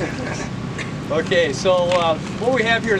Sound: laughs

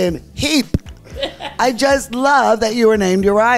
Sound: laughs

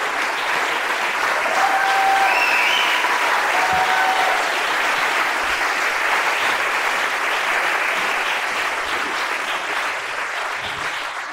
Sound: applause, cheers, and whooping

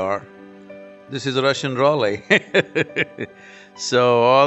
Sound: laughs

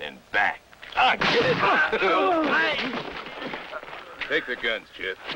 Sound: groan

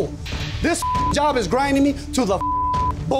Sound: beeping; beeping

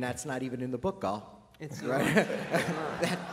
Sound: laughter

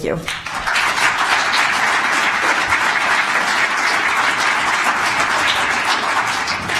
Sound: applause

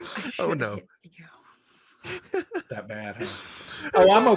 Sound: laughs

